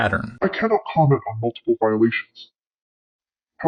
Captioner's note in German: verzerrt